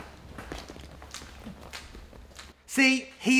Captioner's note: sticky footsteps